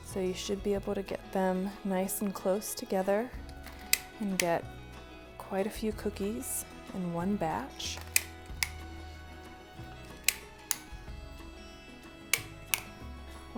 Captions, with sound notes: so you should be able to get them nice and close together, and get quite a few cookies in one batch. (cookie cutter clicking)